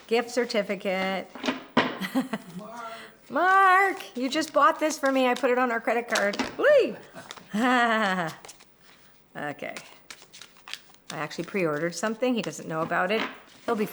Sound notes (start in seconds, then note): 6.6 laughing